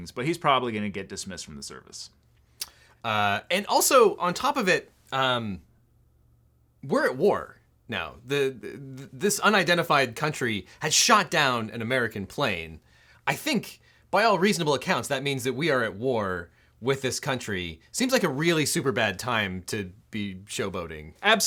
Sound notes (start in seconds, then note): none